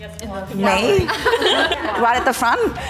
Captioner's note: all chuckles